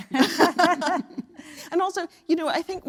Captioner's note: laugh